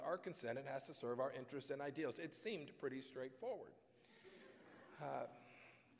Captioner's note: laughter